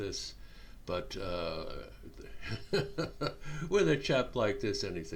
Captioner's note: chuckling